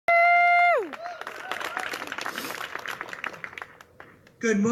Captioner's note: audience claps and cheers